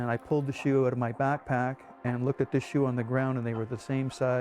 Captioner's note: voiceover